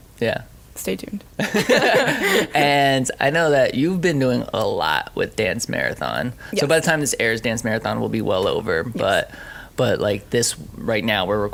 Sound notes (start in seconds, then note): 1.4 laughing